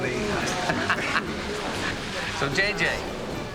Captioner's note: laughing